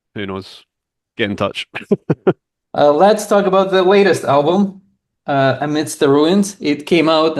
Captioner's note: laughs